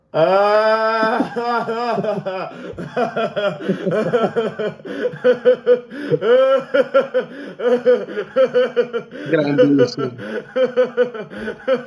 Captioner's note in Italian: Risate